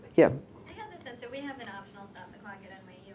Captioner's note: voiceover